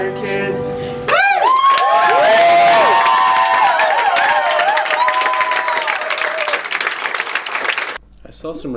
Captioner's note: applause